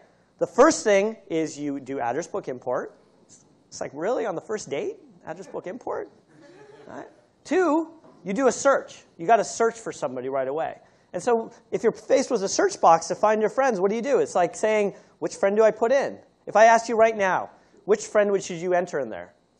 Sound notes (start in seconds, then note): 6.3 laughter